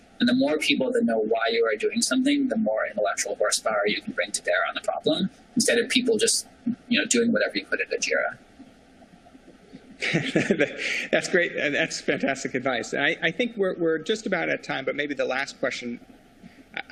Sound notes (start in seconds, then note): 10.0 laughter